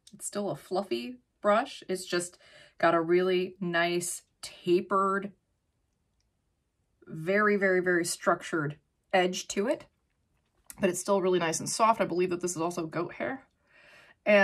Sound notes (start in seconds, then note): none